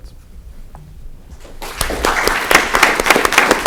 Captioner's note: applause